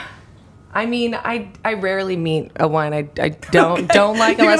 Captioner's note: laughing